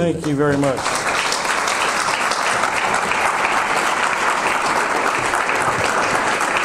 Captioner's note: audience applause